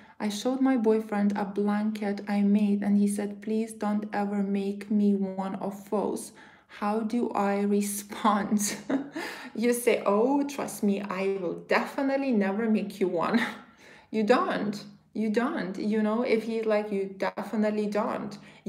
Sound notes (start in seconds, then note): 8.6 chuckles